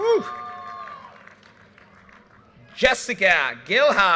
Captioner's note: audience cheers and applause